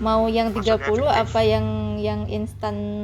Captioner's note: menggerutu